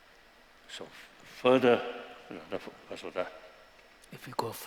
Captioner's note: non-english